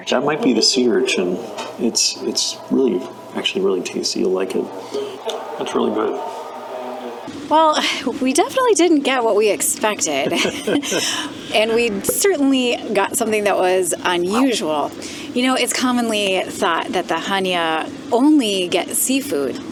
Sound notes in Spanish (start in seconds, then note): 10.0 Risas